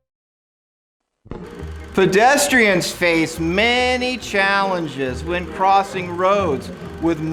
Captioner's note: movie projector sound effects